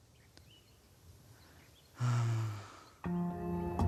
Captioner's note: sighs